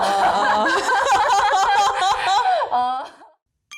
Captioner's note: laughing